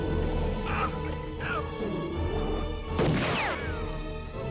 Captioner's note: bear growling; Pa Weaver yelling; gunshot blasts